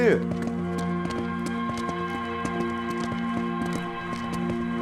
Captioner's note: footsteps approaching